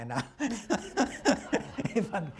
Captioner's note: laughter